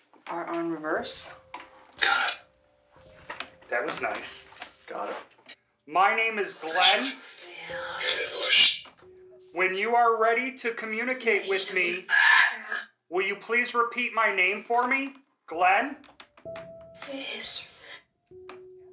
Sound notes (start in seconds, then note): 2.3 box whispers